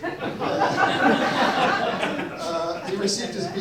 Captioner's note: audience laughs